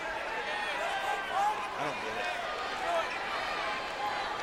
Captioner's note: crowd clamors